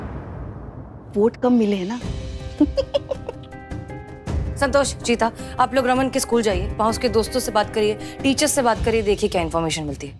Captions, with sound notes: She has less votes. [giggling] Santosh, Cheetah, go to Raman's school. Talk to his friends and teachers. See what you can find.